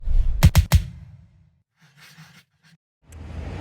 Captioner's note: logo whooshing